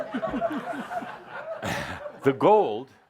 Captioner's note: laughter